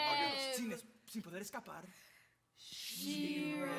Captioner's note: speaking Spanish